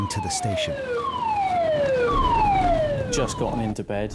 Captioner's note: siren blaring